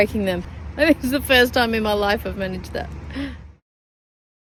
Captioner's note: laughing